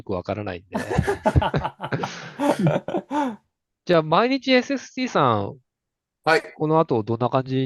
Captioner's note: laughs